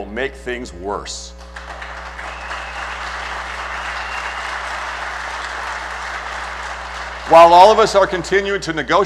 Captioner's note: applause